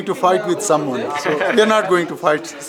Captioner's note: laughing